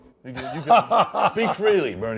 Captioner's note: laughter